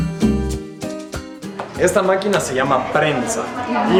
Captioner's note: in Spanish